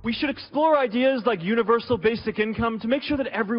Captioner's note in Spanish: Habla en Inglés